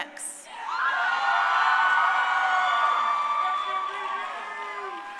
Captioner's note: crowd cheering